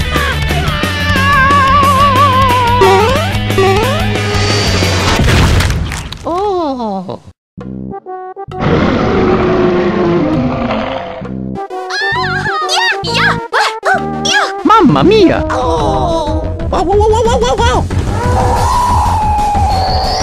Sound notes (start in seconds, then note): 2.6 boing; 5.1 crack; 6.2 moan; 18.2 frustration